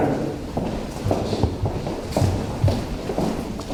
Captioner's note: footsteps